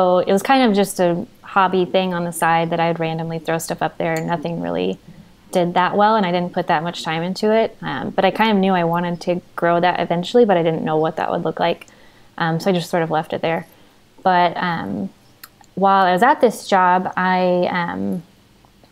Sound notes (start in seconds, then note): none